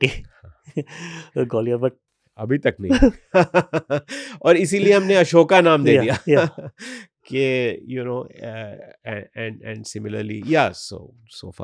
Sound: laughs

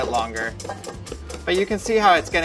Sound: whisking

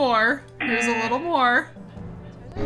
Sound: buzzer

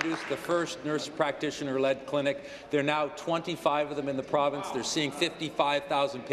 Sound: applause

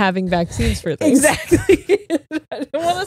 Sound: laughing

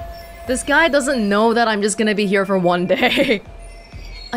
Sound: chuckles

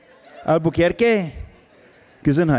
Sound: laughs

